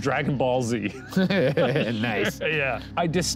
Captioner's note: laughs